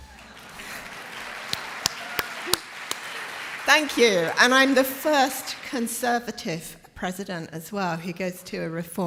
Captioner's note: applause